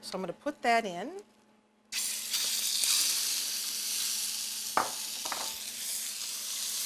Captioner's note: sizzling